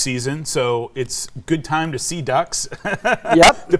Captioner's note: laughs